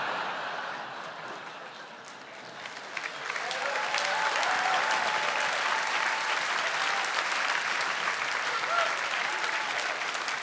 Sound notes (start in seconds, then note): 0.0 laughter; 1.4 applause and cheering